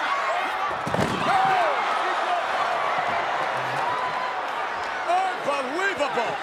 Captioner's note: crowd cheering; Bret Hart thudding